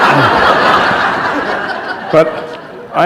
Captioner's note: laughter